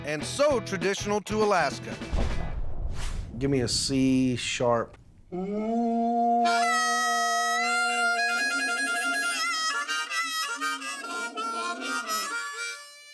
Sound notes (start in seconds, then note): 5.2 horn sound; 6.3 harmonica playing